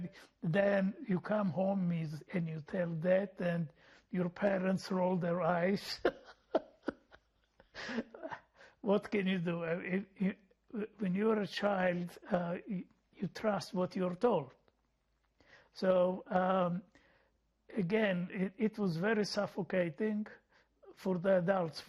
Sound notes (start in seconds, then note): 5.8 laughing